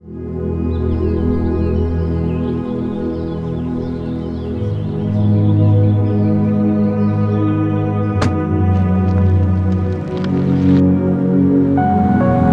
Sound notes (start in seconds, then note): 0.4 gentle music; 8.2 door slams; 9.8 gentle music